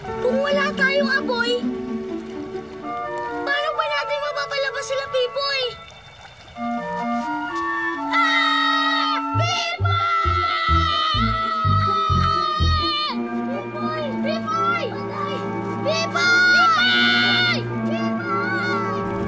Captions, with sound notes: If we don't have fire, how can we get Pipoy out? [both shouting in unison] Pipoy! -Pipoy! -Pipoy! -We're dead! Pipoy! -Pipoy! Pipoy!